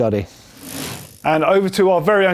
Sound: quick rattle

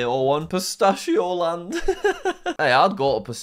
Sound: laughs

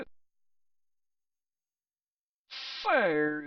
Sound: silence

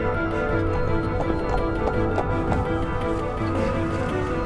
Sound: hooves clomping

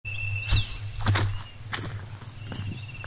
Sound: footsteps

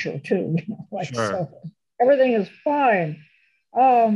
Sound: laughs

